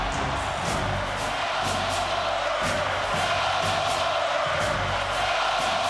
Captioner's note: audience chanting